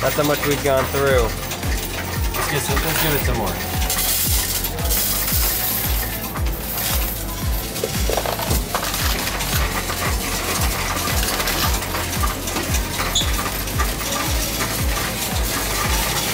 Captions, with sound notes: That's how much we've gone through. Let's give it some more. (coins rattling) (upbeat music)